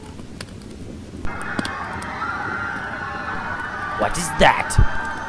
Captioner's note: yelling and running